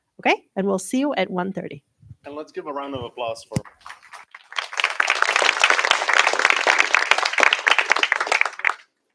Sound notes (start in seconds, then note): 3.6 applause